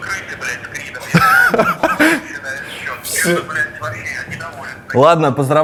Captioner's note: laughs